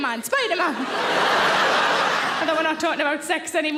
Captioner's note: audience laughing